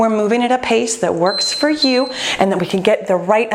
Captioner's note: timer beeping